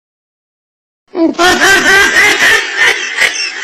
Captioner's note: SFX Meme laughing